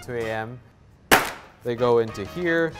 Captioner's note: toffee banging